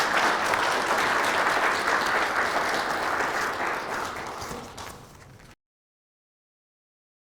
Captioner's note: applause